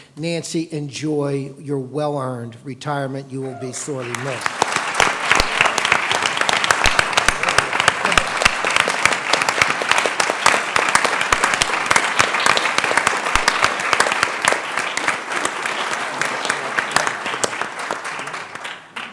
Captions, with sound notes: Nancy enjoy your well-earned retirement you will be sorely missed [applause]